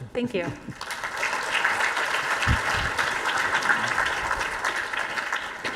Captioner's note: audience applauding